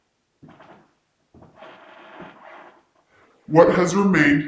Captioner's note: floor creaking